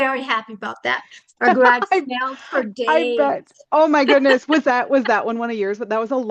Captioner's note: laughter